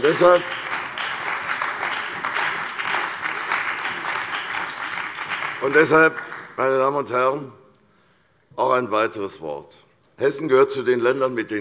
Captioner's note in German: Beifall bei der CDU und dem BÜNDNIS 90/DIE GRÜNEN